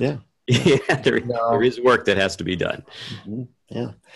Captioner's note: laughs